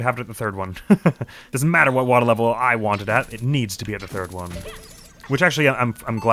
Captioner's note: chuckles